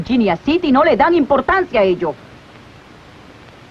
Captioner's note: none